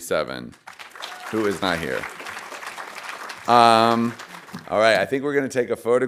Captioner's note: audience applauding